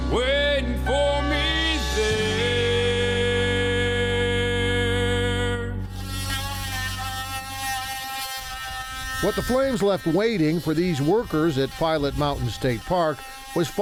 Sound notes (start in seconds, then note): 5.8 machine buzzing